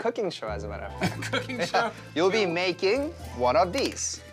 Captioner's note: laughing